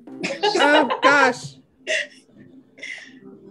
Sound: laughs

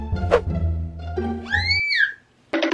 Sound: scream

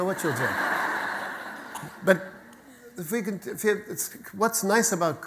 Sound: audience laughter

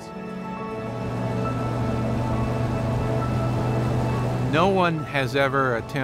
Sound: boat Engine

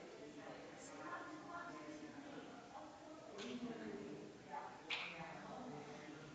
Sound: people chattering distantly continues

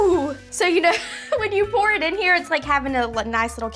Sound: laughs

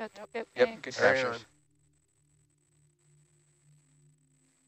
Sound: male Voice; approving chatter

